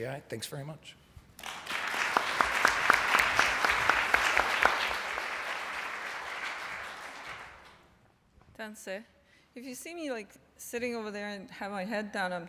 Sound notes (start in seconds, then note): 1.4 applause